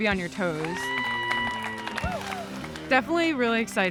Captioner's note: crowd cheering